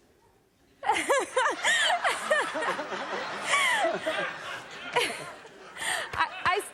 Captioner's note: laughter